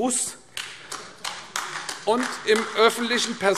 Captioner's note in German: Beifall AfD